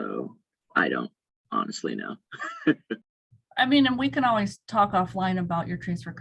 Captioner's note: laugh